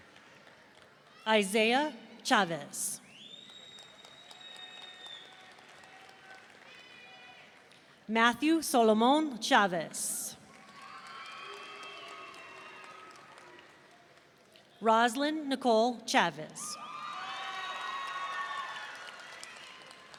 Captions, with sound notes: Isaiah Chavez. (audience applauding) Matthew Solomon Chavez. (audience cheering) Roslynn Nicole Chavez. (audience cheering)